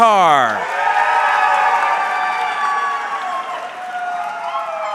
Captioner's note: audience cheering